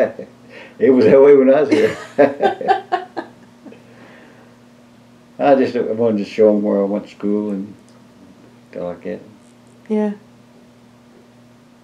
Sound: laughter

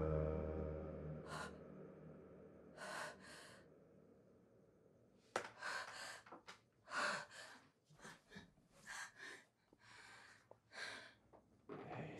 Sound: heavy breathing

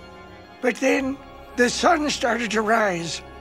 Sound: none

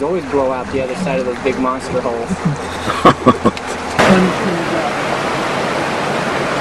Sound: chuckle

